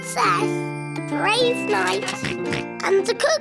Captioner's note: oinks